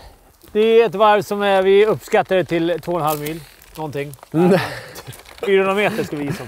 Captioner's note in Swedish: skratt